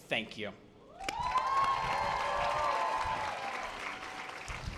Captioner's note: audience applause